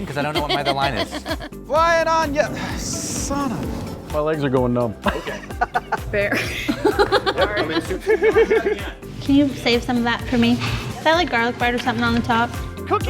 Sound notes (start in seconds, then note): 0.1 woman laughing; 7.1 women laughing; 8.3 man laughing